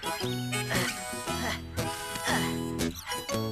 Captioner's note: Spud Panting